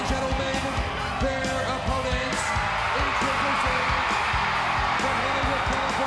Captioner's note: crowd cheering